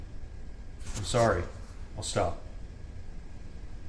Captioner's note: rustles